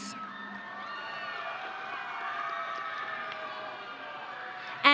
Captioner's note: audience cheering